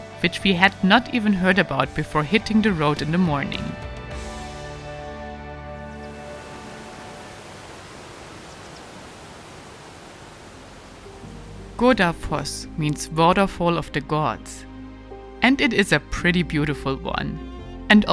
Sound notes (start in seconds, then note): 6.0 water gushing; 11.1 gentle music